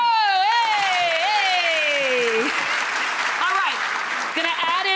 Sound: audience applause

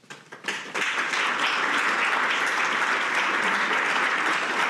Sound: audience applauding

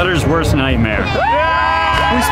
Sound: cheering

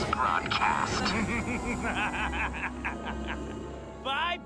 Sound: laughter

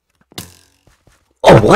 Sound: getting hit by a minecraft arrow sfx

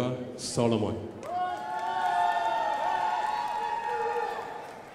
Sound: crowd applauding

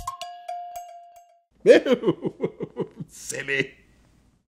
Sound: laughs

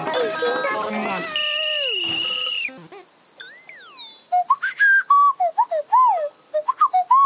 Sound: whistles

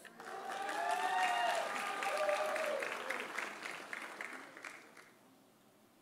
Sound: audience applauding; audience cheering

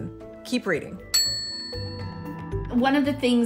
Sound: bell ringing

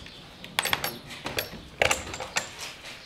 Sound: clacking

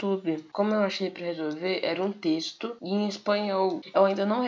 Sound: I speak in PORTUGUESE

